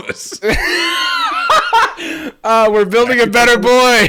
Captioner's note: laughing